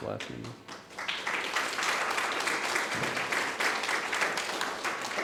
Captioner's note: audience applauding